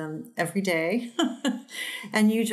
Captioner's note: laughs